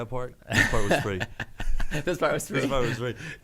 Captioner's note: laughing